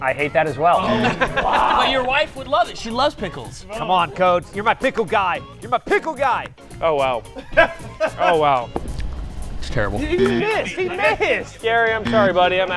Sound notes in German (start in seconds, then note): 7.2 lacht